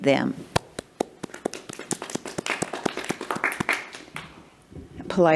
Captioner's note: attendees applauding